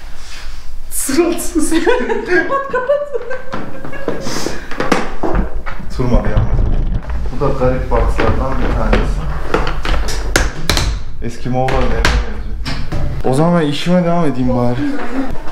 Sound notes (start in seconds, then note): 1.6 giggles